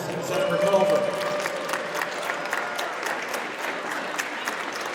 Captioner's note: audience applauds